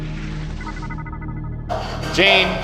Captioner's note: screen beeping